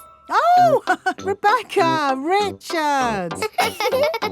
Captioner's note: laughs; both laughing; chuckles